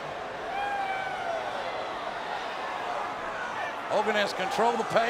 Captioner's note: crowd clamoring